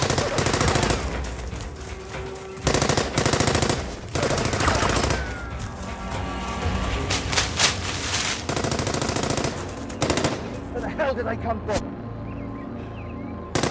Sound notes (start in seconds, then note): 2.4 gunshots blasting; 7.1 gunshots blasting; 13.5 gunshots blasting